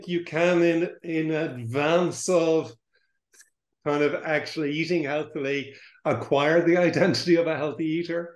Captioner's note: laughs